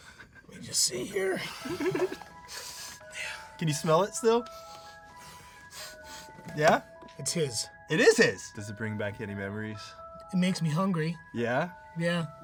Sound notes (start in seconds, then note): 4.5 Danny sniffing